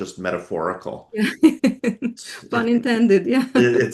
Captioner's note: laughs